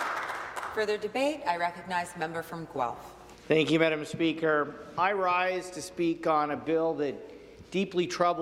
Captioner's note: some Applause